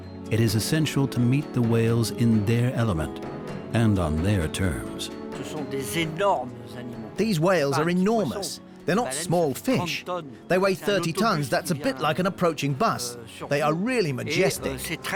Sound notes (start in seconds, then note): 5.3 speaking French